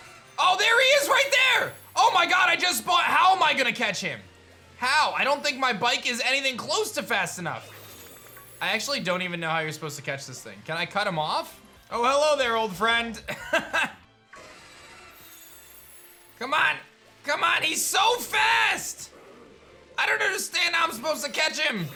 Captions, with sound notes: Oh, there he is right there! Oh my god. I just spot... How am I going to catch him? How? I don't think my bike is anything close to fast enough. I actually don't even know how you're supposed to catch this thing. Can I cut him off? Oh. Hello there, old friend. (laughs) Come on. Come on. He's so fast. I don't understand how I'm supposed to catch him.